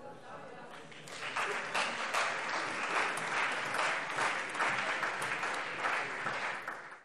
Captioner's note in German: Allgemeiner Beifall